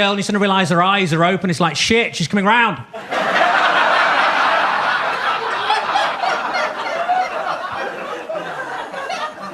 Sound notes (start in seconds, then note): 2.9 audience laughs